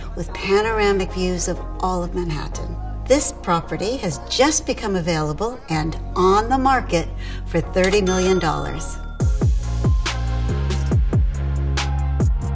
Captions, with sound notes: with panoramic views of all of Manhattan. This property has just become available and on the market for $30 million. [ding] [upbeat music]